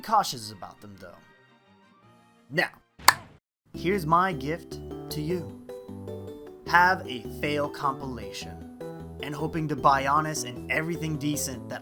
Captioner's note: clap